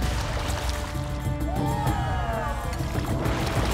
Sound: cheering

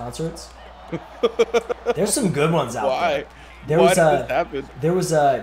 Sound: laugh

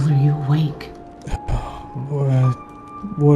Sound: sigh

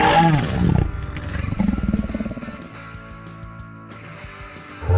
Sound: dinosaur roars

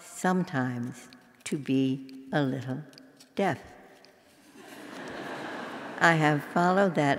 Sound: laugh

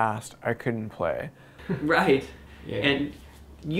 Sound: laughter

